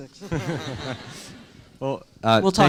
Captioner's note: students laughing